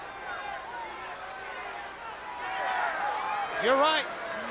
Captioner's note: crowd cheering